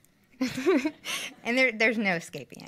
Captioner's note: laughs